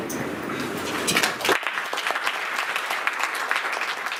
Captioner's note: clapping